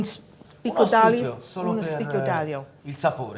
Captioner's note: speaking italian